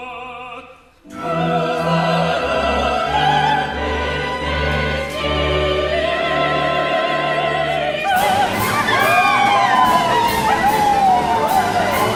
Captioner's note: cries, howls